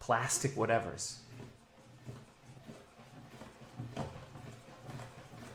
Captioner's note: swift nail scratching